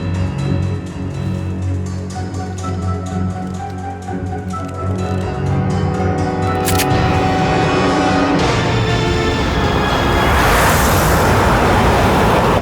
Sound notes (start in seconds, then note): 0.5 suspenseful music; 6.5 gun clicking